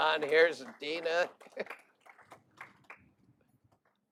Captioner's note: laughter